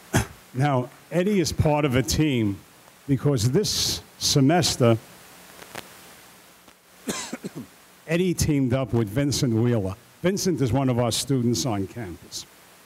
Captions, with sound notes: Now Eddie is part of a team because this semester (coughs), Eddie teamed up with Vincent Wheeler. Vincent is one of our students on campus,